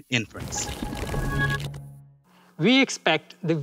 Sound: transition sound effect

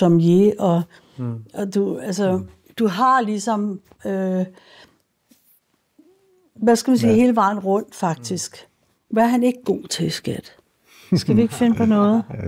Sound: laughs

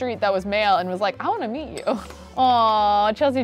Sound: laughs

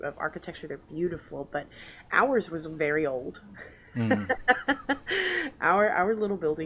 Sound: laughs

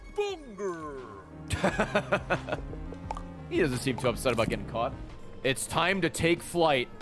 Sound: laughs

